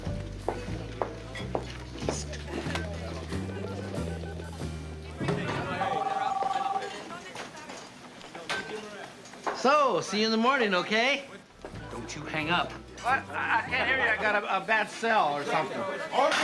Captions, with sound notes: [phone redialing] [phone ringing] So, see you in the morning, OK? Don't you hang up. What? I can't hear you. I got a bad cell or something.